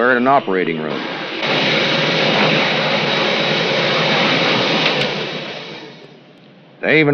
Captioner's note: cleaning machine sounds